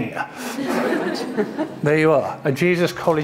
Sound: audience laughing

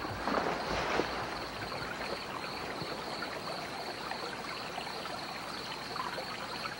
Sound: water dripping and rustling

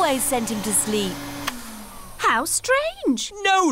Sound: whirring stops

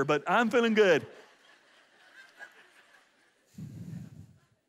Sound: audience laughs

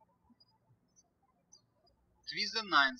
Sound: birds chirping

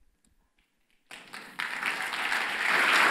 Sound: applause

